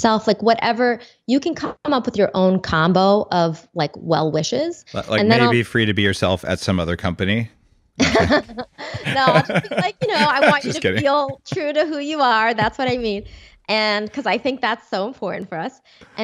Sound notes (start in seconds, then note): 8.0 laughing